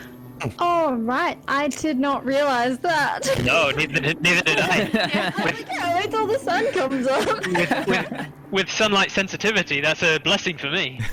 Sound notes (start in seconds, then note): 3.2 laughs